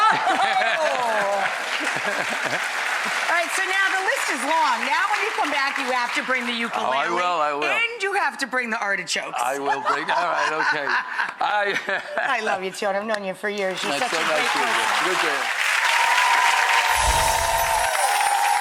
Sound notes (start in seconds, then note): 0.0 audience applauds; 9.5 laughter; 13.7 audience cheers; 16.9 chimes